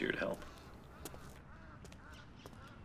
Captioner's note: bird cawing